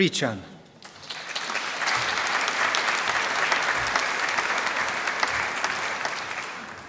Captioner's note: applause